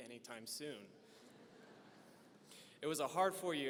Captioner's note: audience laughing